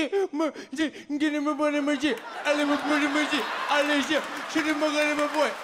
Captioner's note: imitates crying like a trap song; audience laughs and applauds